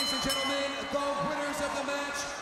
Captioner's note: bell ringing; crowd chatter